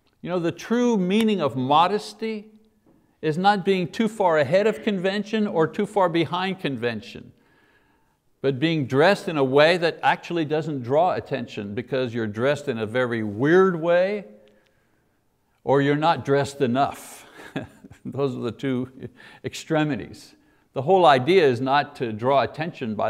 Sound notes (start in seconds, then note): 17.3 chuckles